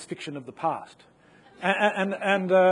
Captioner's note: audience laughing